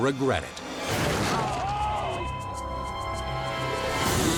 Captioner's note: body slams